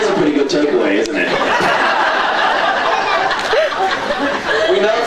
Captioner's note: laughs